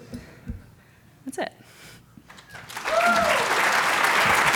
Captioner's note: cheers and applause